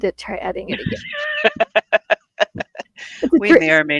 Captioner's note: laughing